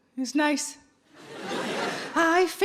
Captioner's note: audience laughing